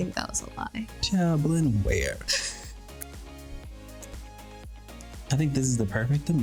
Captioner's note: chuckles